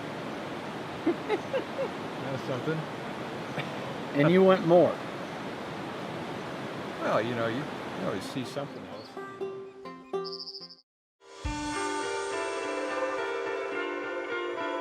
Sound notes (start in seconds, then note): 1.0 laughing; 9.1 gentle acoustic guitar music; 10.0 bird chirping